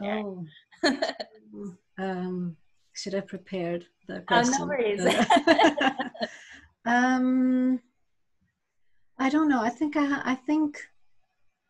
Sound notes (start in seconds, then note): 0.8 laughs; 5.0 laughs